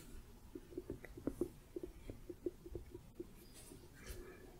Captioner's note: light tapping